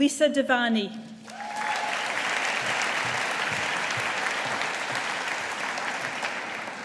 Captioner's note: audience applauding